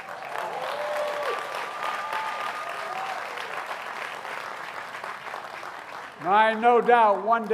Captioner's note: applause